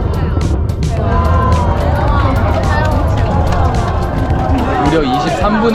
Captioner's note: people cheering